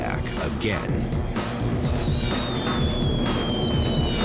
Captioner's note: bombs whistling